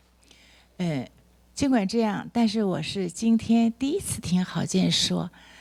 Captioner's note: speaks Mandarin